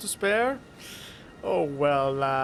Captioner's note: sharp inhale